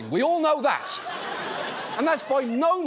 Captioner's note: audience laughs